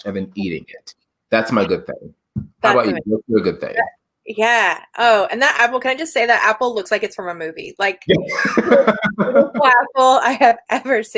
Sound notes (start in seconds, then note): 8.0 laughs